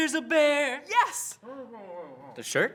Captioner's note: producer mumbles